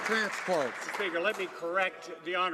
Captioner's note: some Applause